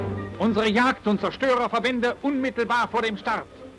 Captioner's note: speaking German